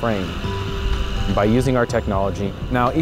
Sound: machine whirring

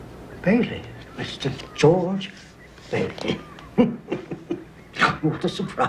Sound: laughs

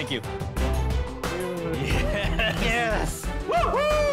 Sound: chuckling

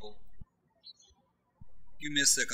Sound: birds chirping

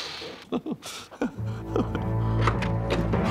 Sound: giggling nervously

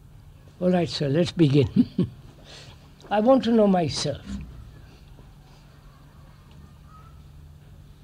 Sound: laughs

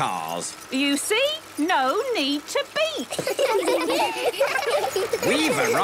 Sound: laughter

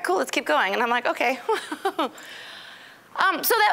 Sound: laughing

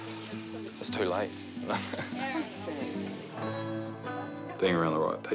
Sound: chuckles

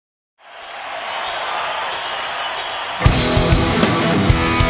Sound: audience cheering; upbeat music

